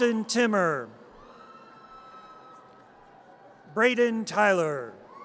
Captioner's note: audience cheers